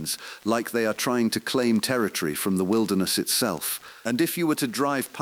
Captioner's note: exhale